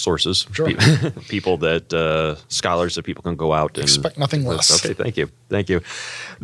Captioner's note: laugh